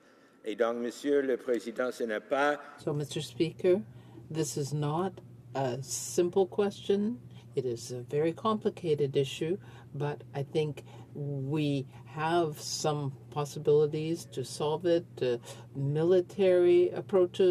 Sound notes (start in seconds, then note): 4.6 speaking French